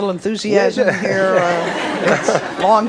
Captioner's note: audience laughs